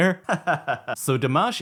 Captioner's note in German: lacht